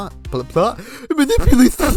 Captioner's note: inhale; mockingly